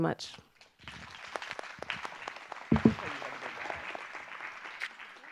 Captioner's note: audience applause